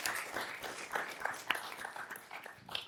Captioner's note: applause